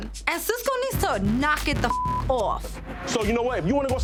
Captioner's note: beep